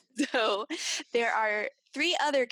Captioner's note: laughs